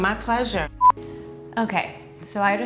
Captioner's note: beeping